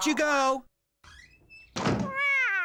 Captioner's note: door Slams